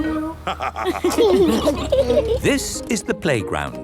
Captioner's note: laughter